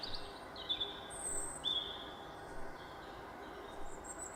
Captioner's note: birdsong